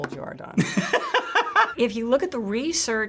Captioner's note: laughs